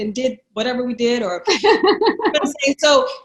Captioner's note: laughs